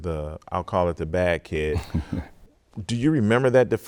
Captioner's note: chuckling